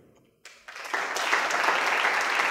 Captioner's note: applause